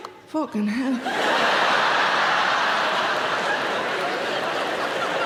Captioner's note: audience laughing